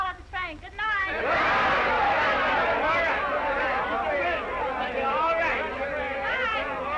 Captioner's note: all chattering; crowd yelling